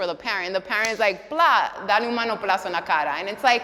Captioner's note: speaks Spanish